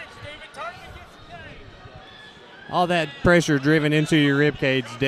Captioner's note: crowd noise